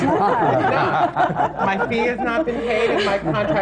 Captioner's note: laughter